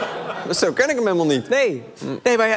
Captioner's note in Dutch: gelach